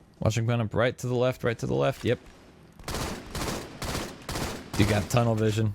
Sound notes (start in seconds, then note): 1.9 guns firing